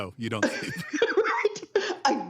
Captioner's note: laugher